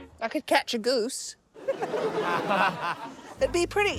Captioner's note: laughter